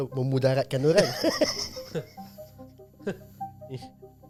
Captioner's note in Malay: ketawa